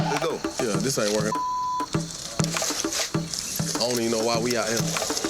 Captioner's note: beep